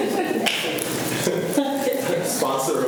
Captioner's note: students laugh